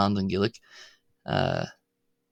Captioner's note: spoken slowly